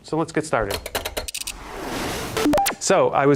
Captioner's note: cranking